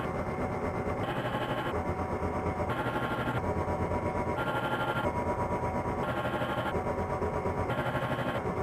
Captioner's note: measuring machine noise